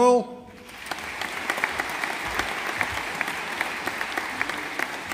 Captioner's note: audience applauding